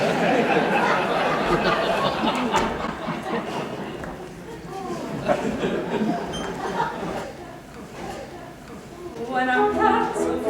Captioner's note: laughter